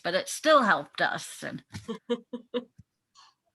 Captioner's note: laughing